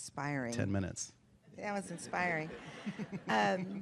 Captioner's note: laughter